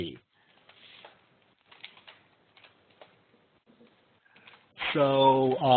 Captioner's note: silence